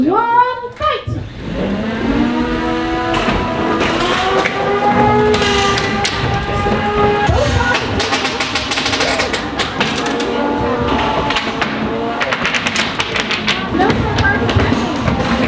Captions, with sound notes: two, one, fight! (robots whirring) (robots thudding) (robots clattering) No Spare Parts...